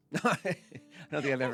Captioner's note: laughs